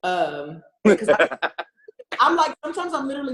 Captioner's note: laughs